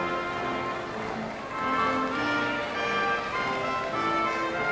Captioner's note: audience applauding